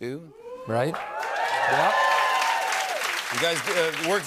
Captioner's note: cheers and applause